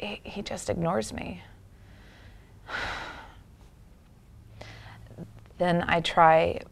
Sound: deep sigh

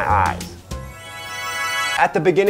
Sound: magic twinkle sound

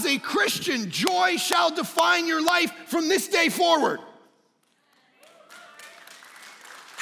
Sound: congregants applauds

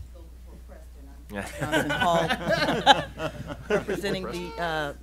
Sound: laughing

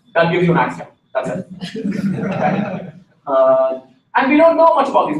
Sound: laughter

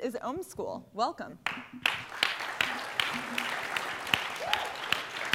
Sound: applause

